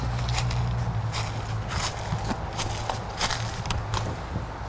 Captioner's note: leaves crunch